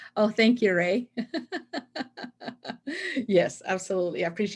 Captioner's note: laughs